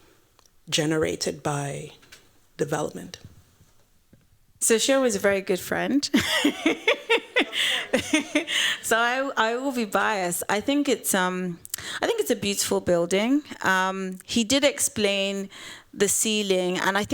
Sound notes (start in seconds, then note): 6.1 laughter